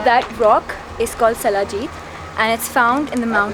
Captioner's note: speaking in foreign language